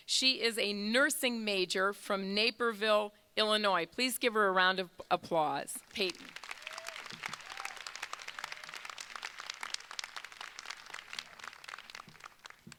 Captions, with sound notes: She is a nursing major from Naperville, Illinois. Please give her a round of applause. (crowd applauding) Payton. (crowd cheering)